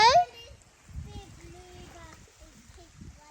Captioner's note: kids talking in the background about the fish